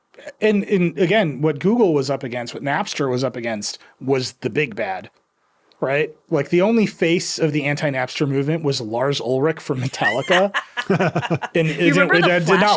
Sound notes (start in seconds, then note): 9.8 laughing